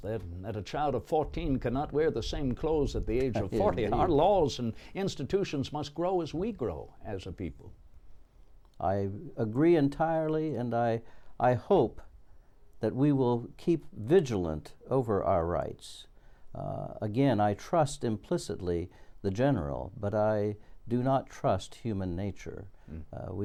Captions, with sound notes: that a child of fourteen cannot wear the same clothes at the age of forty (laughs) and our laws and institutions must grow as we grow as people. - I agree entirely, and I hope that we will keep vigilant over our rights. Again, I trust, implicitly, the General, but I do not trust human nature.